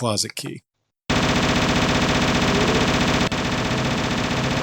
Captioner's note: gunfire